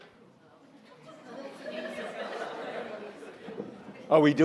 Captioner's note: audience laughing